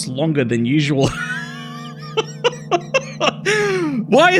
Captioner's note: laughs